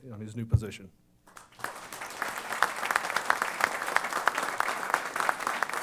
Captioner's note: applause